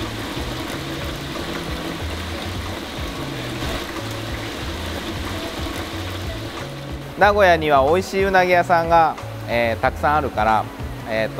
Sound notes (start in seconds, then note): 1.5 loud water splashing; 7.2 speaking in foreign language